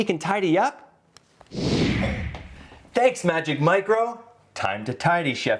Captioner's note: whoosh sound